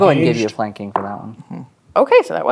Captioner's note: dice rolling